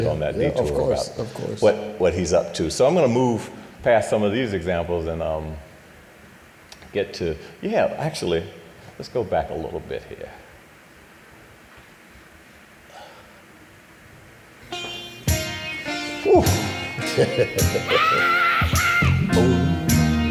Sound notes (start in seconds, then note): 13.3 laughing; 15.2 upbeat music